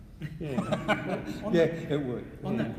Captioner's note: laughing